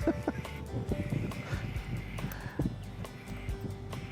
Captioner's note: chuckling